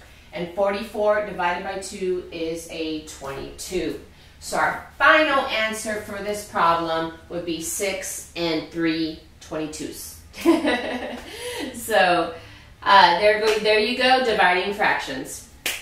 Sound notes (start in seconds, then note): 10.4 laughs